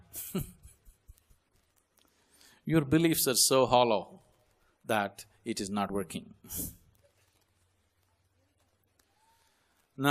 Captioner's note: laughs